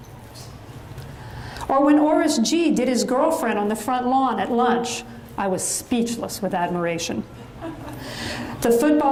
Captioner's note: audience chuckles